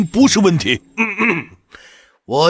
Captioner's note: ahem